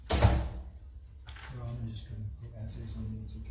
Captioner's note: door locks; both mumbling